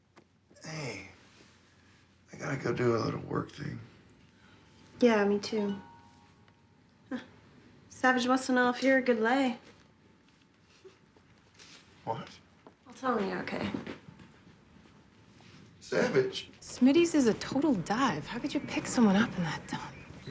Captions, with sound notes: Hey... I got to go do a work thing. Yeah. Me too. -[CELL PHONE CHIMES] -[CHUCKLES] Savich wants to know if you're a good lay. -[CHUCKLES] -What? I'll tell him you were okay. -Savich? -Smitty's is a total dive. How could you pick someone up in that dump?